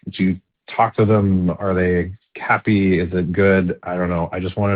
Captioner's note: none